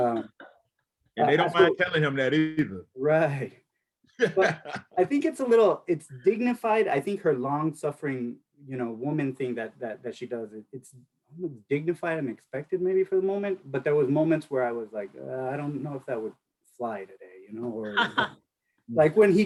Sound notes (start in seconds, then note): 1.3 laughs; 4.2 laughs; 17.8 laughs